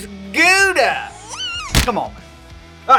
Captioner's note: baby squeals; object thuds